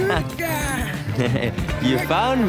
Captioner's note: chuckling